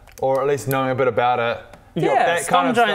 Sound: none

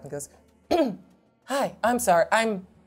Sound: clears throat

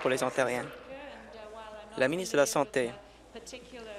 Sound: applause

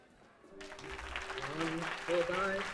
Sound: applause

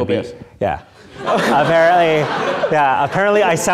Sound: audience laughing

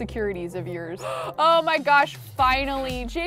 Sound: gasps

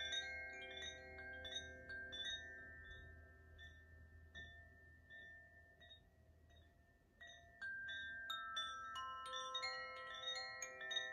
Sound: chimes

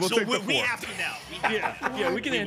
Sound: laughs

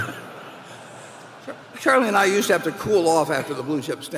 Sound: laughter

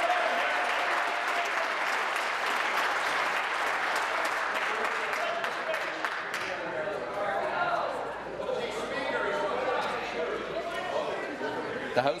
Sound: applause

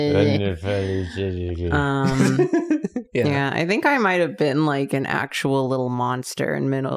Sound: laughter

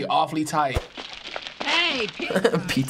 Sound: cellphone crinkles; chuckles

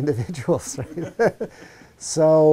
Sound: laugh

